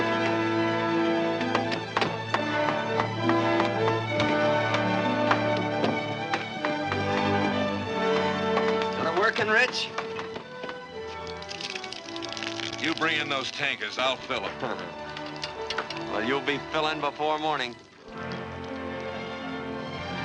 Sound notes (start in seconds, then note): 11.2 liquid pouring; 18.0 exciting music